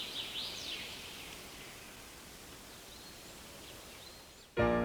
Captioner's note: birds chirping